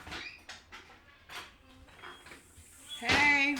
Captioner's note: door creaking open